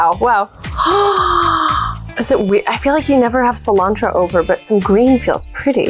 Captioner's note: gasps